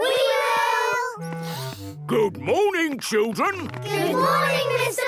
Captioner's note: sniffs